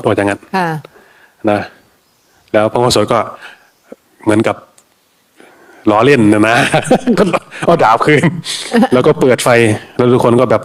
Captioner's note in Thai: เสียงหัวเราะ